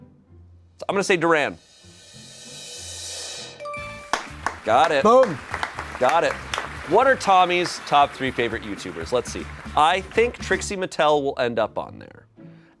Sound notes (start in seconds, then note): 2.1 drum roll hisses; 3.7 bell chimes; 4.1 crew applauds